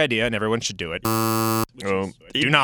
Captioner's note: buzzer